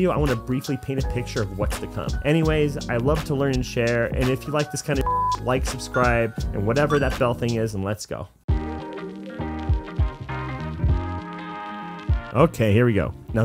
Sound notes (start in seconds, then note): 6.8 beep; 8.5 upbeat electronic music